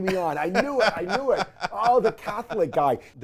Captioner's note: laughs